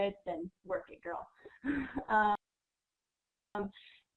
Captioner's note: laughter